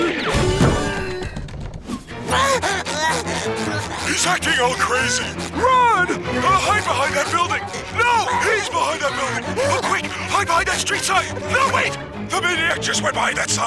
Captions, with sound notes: [crying] He's acting all crazy! Run! Now hide behind that building! No! He's behind that building! Quick! Hide behind that street sign! No, wait! The maniac just went by that sign!